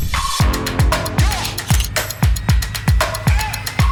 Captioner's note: camera shutter snapping